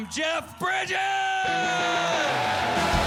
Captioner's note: shouting; cheering